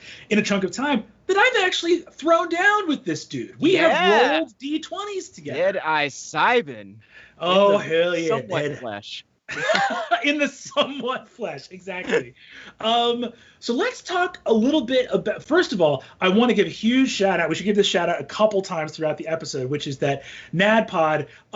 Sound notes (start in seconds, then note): 9.5 laughs